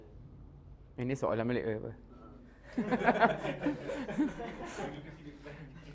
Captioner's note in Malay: ketawa